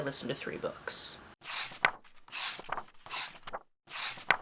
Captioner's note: pages turning